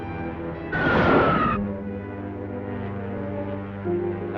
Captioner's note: rocket streaks